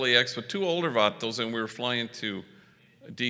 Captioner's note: foreign language